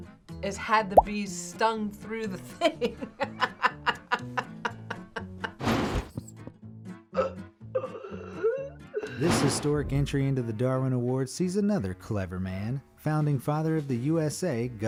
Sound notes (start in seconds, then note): 2.6 laughs; 7.7 man wheezing